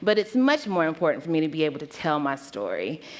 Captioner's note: none